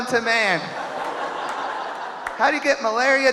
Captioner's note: audience laughing